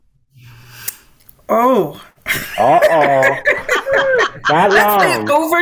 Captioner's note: laughs